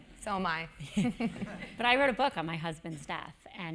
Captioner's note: laugh